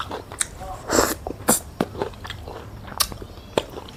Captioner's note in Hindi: नाक से की जाने वाली आवाज़